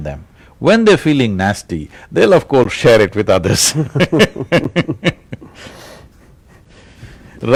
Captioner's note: laughter